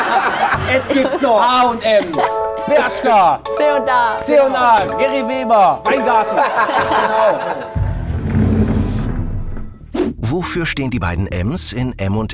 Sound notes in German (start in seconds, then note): 2.7 Klingeln; 6.5 Klingeln; 7.6 Spannungsvolle Klänge